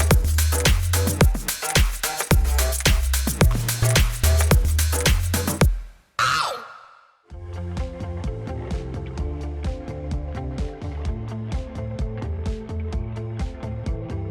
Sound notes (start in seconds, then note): 0.0 upbeat hip-hop music; 6.2 screams